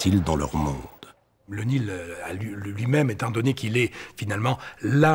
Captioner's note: French spoken audio